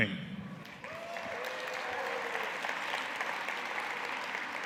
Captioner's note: cheers and applause